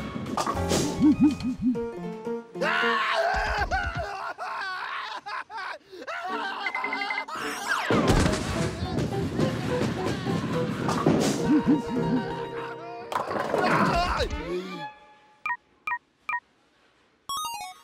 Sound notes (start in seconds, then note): 2.6 wailing; 16.3 beeping